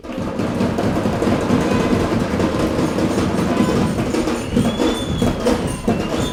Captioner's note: celebration is happening